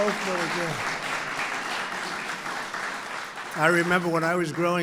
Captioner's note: applause